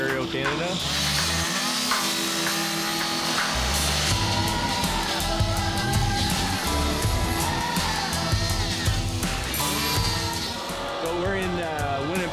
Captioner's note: chainsaw buzzing